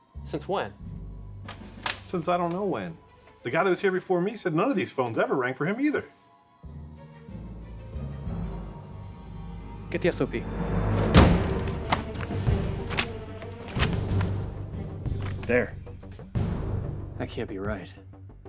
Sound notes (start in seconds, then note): 10.9 pages rustling; 11.9 dramatic music continues